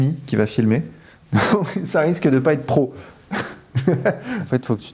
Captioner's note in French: rires